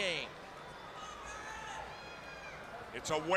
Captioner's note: crowd chatter